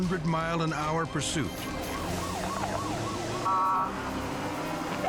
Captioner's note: siren blaring